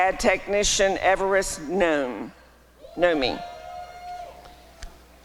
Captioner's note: applause and cheering